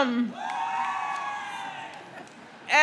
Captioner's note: crowd cheers